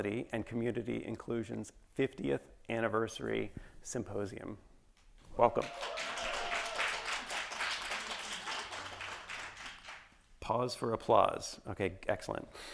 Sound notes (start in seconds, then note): 5.5 attendees applauding